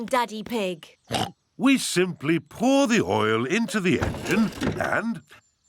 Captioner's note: oinks